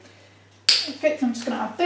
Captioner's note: lid clicks open